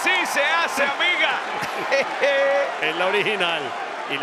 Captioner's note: laugh